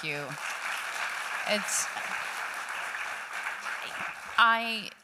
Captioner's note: applause